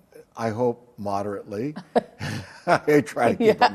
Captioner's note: both laugh